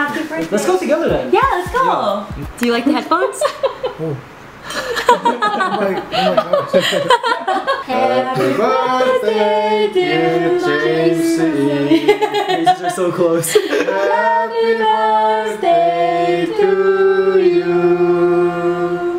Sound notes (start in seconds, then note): 4.6 laughs